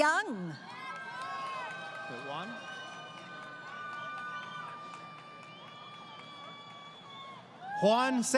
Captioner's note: crowd Cheering